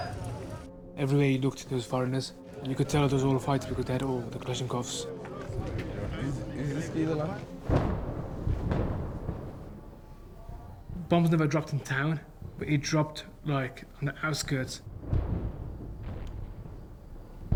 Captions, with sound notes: EVERYWHERE YOU LOOKED, THERE WAS FOREIGNERS. YOU COULD TELL ERE'S A LOT OF FIGHTS BECAUSE THEY HAD ALL THE KALASHNIKOVS. [ EXPLOSIONS IN DISTANCE ] BOMBS NEVER DROPPED IN TOWN, BUT IT DROPPED, LIKE, ON THE OUTSKIRTS. [ EXPLOSIONS CONTINUE ]